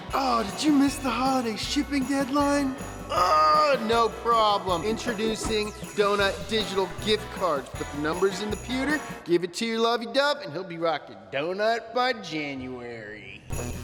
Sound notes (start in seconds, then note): 3.0 groaning